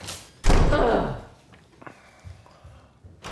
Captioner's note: door slamming; Angela grunting; footsteps approaching